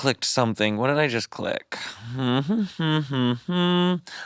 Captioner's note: humming